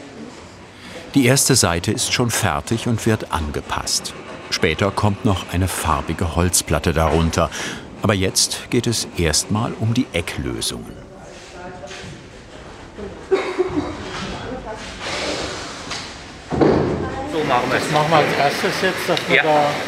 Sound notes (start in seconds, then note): 13.4 conversations in the background